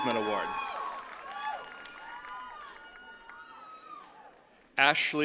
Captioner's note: attendees cheering and clapping